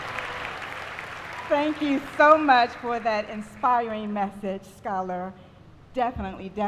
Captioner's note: applause